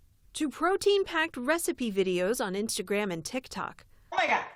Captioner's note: voice-over